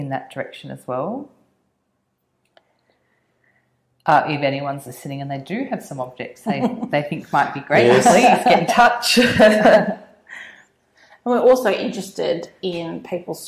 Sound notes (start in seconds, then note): 7.7 laugh